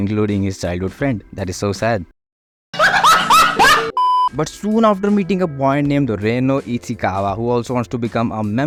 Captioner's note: laughing